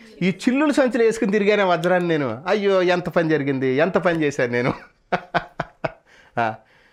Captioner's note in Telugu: నవ్వు